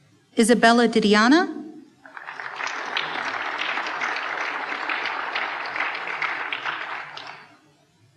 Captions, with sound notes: Isabella Didiana. (applause)